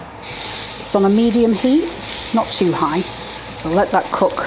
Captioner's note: sizzle